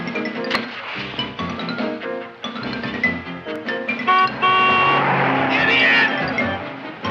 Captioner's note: Seymour thumping; vehicle honking